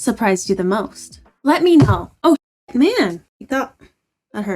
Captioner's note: bangs hand on table